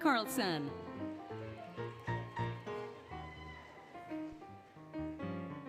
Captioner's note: applause, Cheering, Music